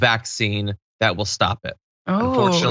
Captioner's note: laugh